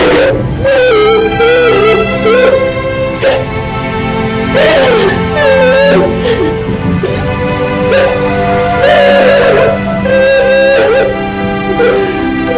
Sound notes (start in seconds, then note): 0.0 crying continues; 8.8 wails